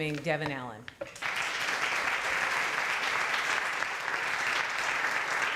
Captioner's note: applause